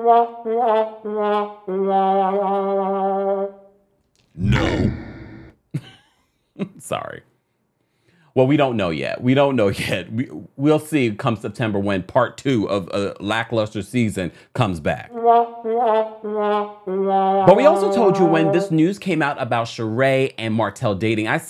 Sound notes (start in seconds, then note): 0.0 sad trombone music; 5.1 deep monstrous voice; 6.6 chuckles; 15.1 sad trombone music